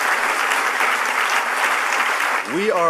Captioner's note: applause